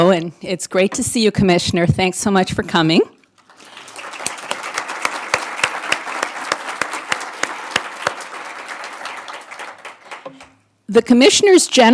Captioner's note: applause